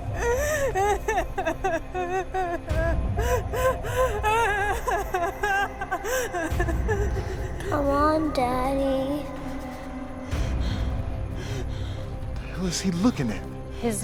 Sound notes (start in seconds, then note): 1.0 Emma sobbing